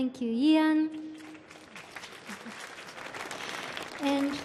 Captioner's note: audience applauding